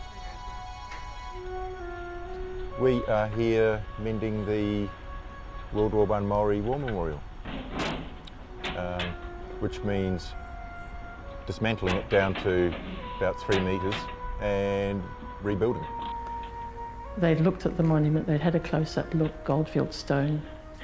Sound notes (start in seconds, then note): 7.5 metal door clanking